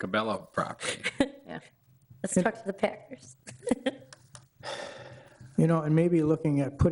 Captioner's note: laughs